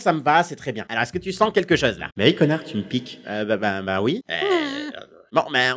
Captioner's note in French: à haute voix